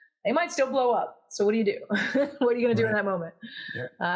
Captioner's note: laugh